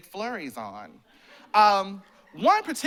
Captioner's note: laughter